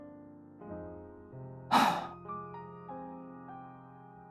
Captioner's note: sigh